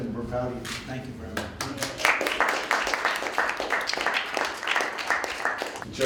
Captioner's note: applause